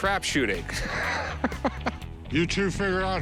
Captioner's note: chuckling